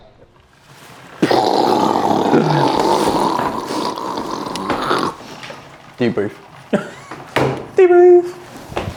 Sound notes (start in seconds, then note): 2.0 imitating steam sound; 6.7 chuckles